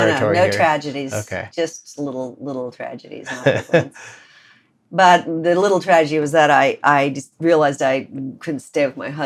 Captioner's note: laughter